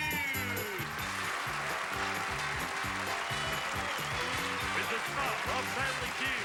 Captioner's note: audience applauding